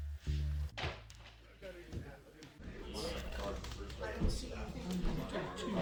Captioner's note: patrons chattering